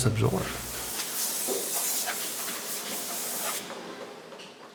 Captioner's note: hissing sounds from factory floor